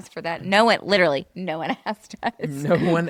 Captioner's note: laughs